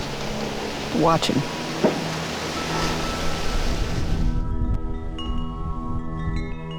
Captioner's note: pensive music; wind chime chiming